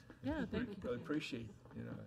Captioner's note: overlapping chattering